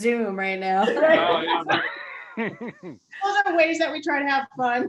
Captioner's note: laughing